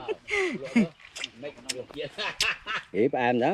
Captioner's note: woman laughs